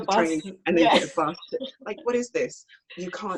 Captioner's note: laughs